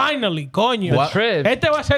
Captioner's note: speaking In Foreign Language